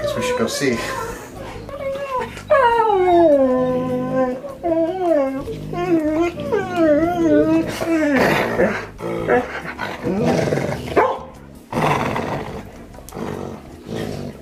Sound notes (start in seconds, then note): 0.0 dogs whining; 2.1 dogs playing and growling